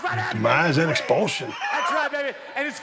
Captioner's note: Dallas laughs